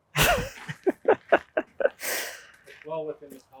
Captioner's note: laughing